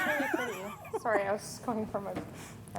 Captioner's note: laughing